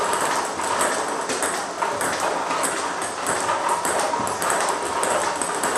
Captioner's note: ball ping pong hitting continues